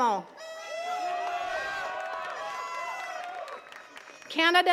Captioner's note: attendees cheering and clapping